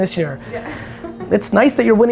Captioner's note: laughs